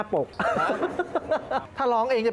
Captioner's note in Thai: เสียงหัวเราะ